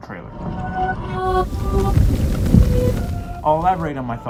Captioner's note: eerie voices being played in reverse